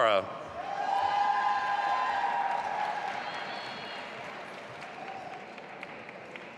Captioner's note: audience applauding and cheering